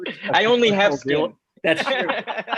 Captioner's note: chuckles